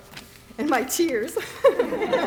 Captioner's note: laughter; laughs